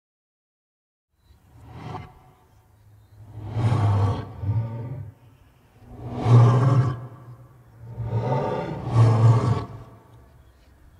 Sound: sound of stressed monster

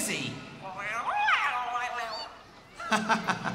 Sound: muffled Meowing; chuckling

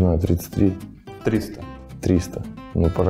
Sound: voice-over

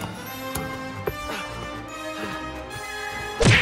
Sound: panting

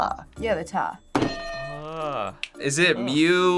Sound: groaning

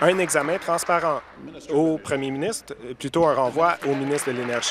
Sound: applause

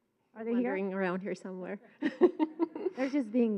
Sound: laughs

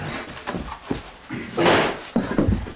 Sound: gunshot

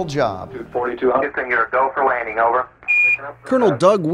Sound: male speaker over radio

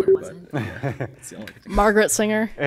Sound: warning bleep; laughing

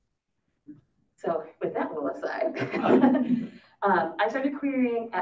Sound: laughs

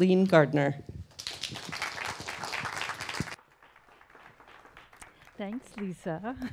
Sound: clapping

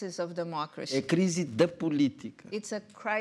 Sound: speaking portuguese

